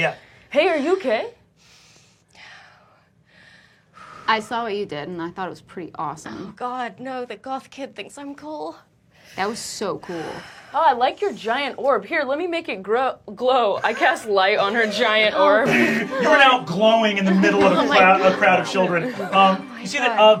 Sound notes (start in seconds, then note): 1.0 struggling to breathe; 6.4 labored breathing